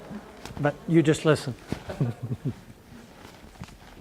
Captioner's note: chuckles